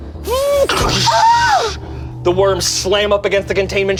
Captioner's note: screams; door slams